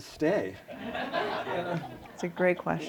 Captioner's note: laughter